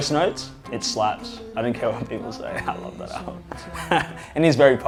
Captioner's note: laughs